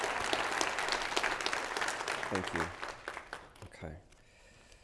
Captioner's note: applause